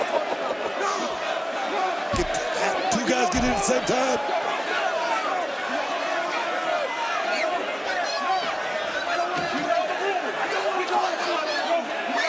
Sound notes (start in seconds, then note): 0.8 crowd roars; 7.7 crowd roars